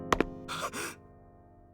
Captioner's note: gasp